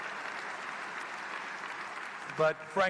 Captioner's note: applause